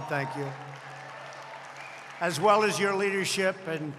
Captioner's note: applause